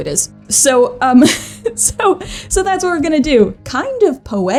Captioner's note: laughs